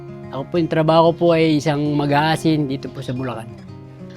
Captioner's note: none